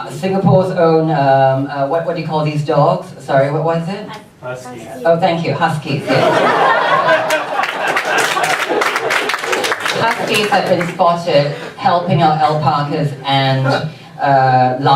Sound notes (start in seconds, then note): 6.2 audience laughs and sporadically claps